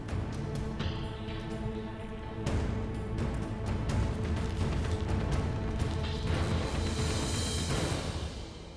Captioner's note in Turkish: Müzik - Gerilim; Alev sesi